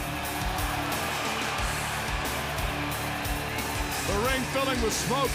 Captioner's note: crowd cheering